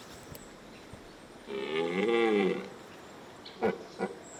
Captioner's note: stag roars